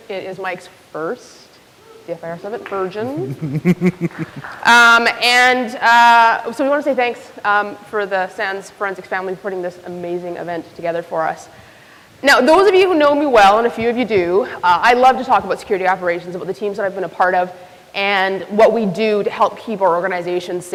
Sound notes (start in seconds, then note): 3.0 laughs